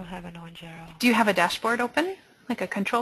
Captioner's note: voiceover